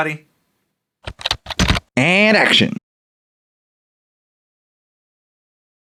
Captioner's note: typing